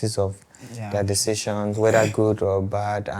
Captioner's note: laughs